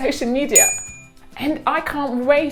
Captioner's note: ding sound